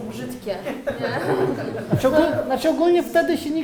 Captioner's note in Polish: śmiech